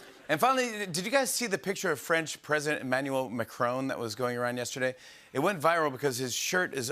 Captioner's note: none